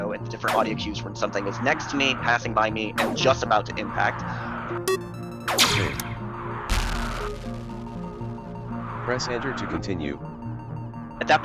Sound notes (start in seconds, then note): 6.6 in-game ship shooting; 6.7 enemy ship exploding